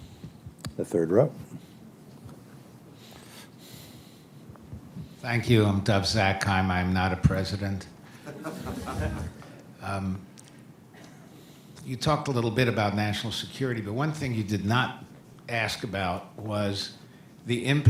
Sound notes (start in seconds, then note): 8.2 laughter